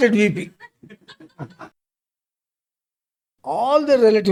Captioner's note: laughs